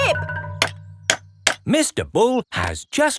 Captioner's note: clanking